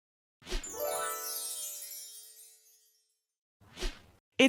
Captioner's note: magical chiming